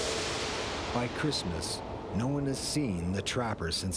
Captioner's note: mysterious music; voiceover